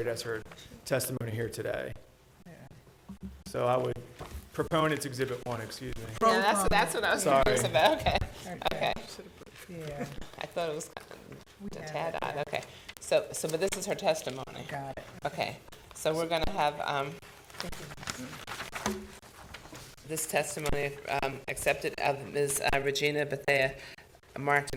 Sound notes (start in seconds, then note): 11.2 board chatting quietly